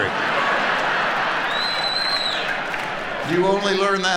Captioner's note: audience laughing